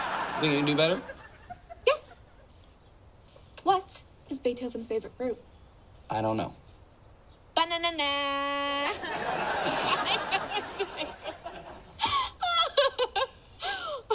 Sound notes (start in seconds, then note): 8.8 laugh; 11.6 both laugh